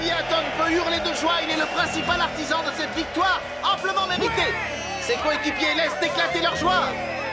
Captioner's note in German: beifall